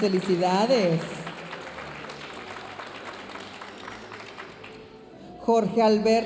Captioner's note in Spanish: aplausos de la audiencia